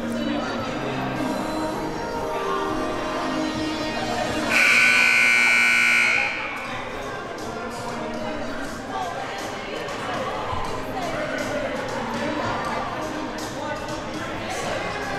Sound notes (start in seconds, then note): 4.5 siren buzzing